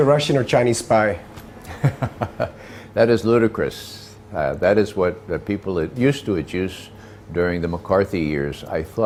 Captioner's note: laughs